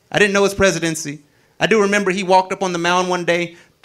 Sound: none

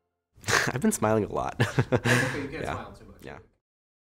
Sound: laughs

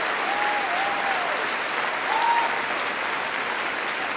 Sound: cheering & Applause

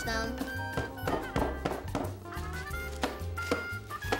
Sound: banging

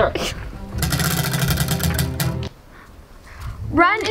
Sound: wheel clanks around metal axle

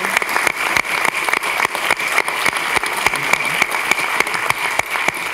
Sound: everyone applauding

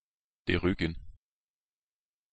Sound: fast Pronunciation

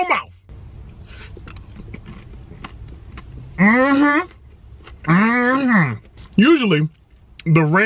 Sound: crunching

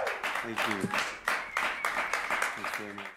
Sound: applause

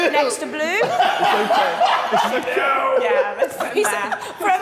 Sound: Sidemen laughing

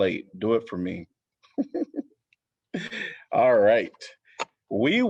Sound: laughter

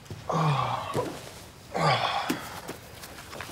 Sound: sighing

